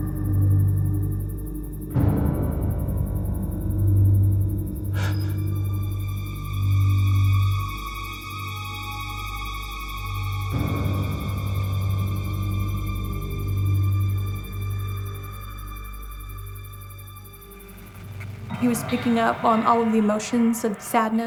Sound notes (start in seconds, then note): 4.3 man gasps